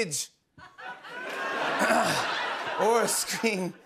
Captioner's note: laughter